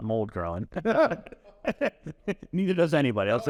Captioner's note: laugh